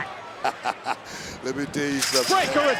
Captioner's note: Booker laughs